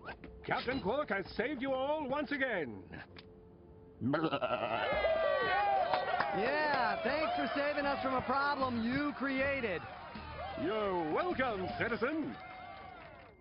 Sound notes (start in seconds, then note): 4.2 bleats; 5.1 cheering